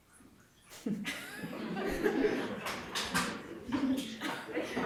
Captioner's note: audience laughs